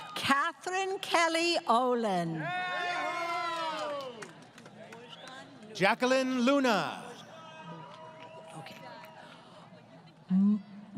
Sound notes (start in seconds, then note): 2.4 crowd Cheering; 7.8 applause